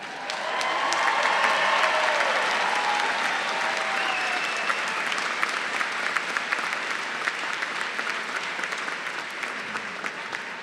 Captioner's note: applause